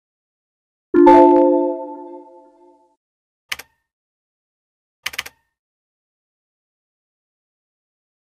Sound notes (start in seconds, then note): 0.9 Windows Error Sounds; 3.3 mouse clicking